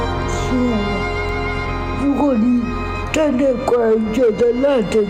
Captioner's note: woman speaking in Chinese language